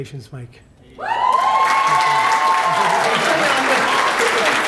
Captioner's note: applause